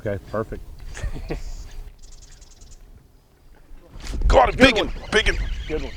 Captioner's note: laughs